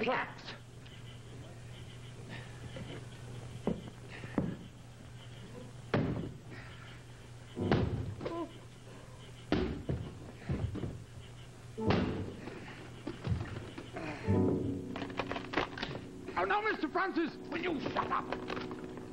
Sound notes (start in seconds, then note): 8.7 creak of coffin opening